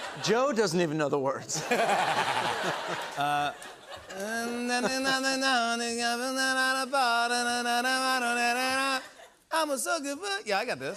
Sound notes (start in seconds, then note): 1.5 laughter; 3.6 mumbling and humming